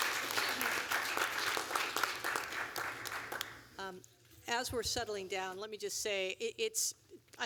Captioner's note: applause